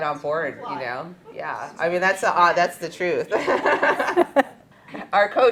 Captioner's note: laughter